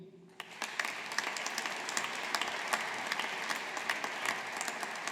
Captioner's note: audience applauding